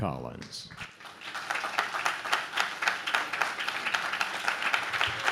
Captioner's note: audience claps